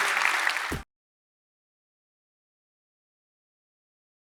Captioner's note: audience clapping